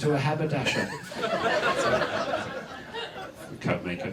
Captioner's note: audience laughs